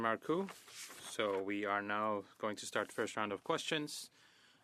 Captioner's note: speaking French